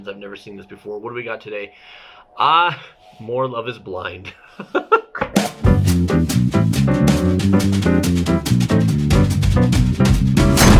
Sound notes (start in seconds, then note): 4.2 laughs; 5.6 upbeat music